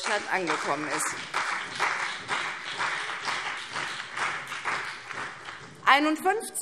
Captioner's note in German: Beifall CDU und BÜNDNIS 90/DIE GRÜNEN